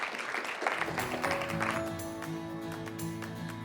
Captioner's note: applause